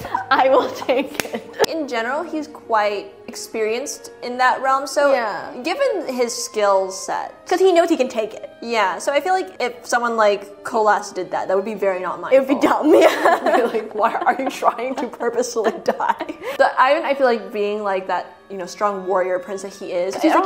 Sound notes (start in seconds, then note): 12.7 laughs